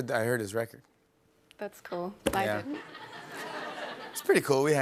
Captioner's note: laughter